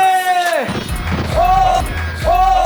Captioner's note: bang! x2